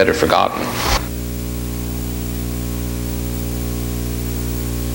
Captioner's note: buzzing